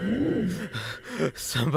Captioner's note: heavy breathing